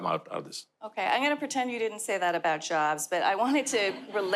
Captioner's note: audience laughter